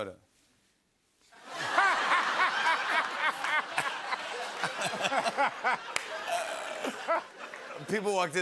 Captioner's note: laughter